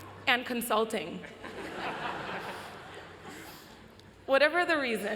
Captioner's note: laughter